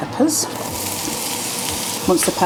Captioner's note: sizzle